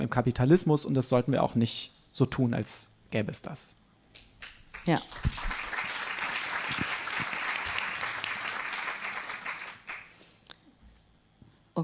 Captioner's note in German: applaus